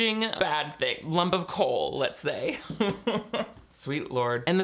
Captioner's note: chuckling